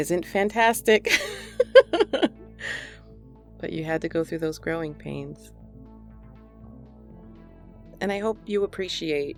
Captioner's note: laughs